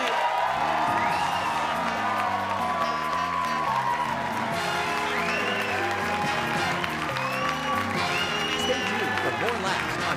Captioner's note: applause